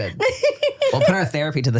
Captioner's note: laughs